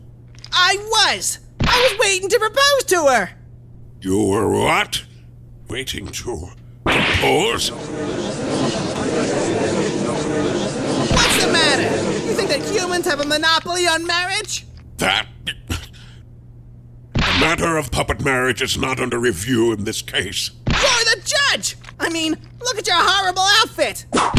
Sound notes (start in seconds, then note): 7.4 gallery chattering; 15.5 stammers